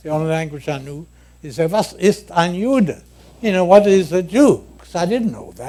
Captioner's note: speaking German